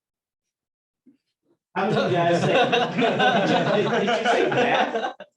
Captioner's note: laughter